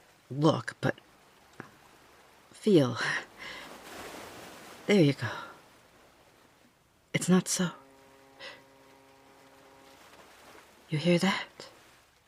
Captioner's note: faint boat horn